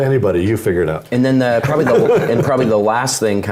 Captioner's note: laugh